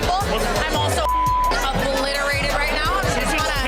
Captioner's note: beep